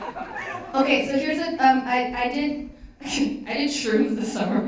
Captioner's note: giggles